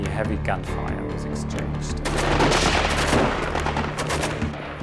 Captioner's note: gunshots